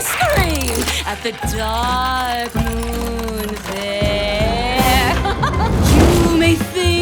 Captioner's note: laughs